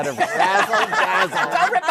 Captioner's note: laughter